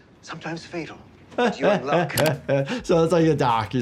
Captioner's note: laughing